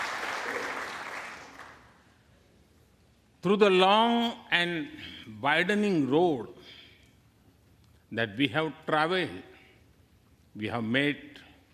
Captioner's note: applause